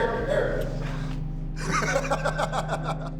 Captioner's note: laughing